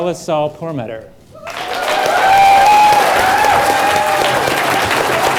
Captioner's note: applause